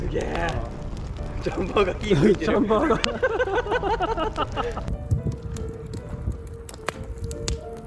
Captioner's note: laughing